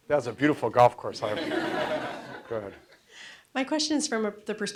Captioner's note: audience laughs